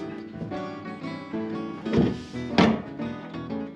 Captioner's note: door opens